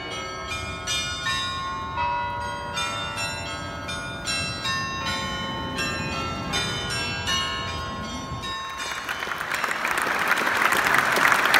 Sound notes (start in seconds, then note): 3.2 trolley rumbling; 8.8 audience applauding